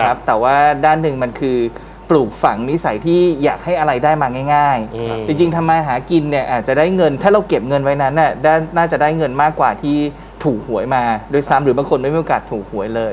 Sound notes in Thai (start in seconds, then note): none